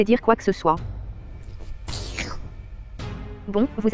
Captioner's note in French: slurp